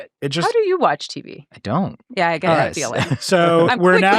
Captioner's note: chuckles